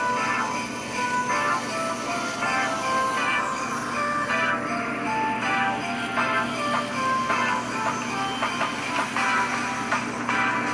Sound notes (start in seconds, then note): 0.0 christmas music playing; 0.0 bandsaw buzzing; 4.9 christmas music playing; 5.9 bandsaw buzzing